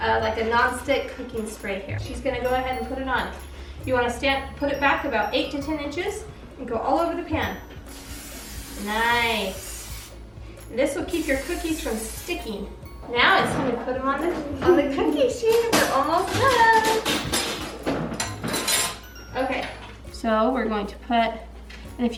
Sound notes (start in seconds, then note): 7.8 cooking spray hissing; 17.5 rattling of metal